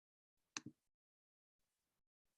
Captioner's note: click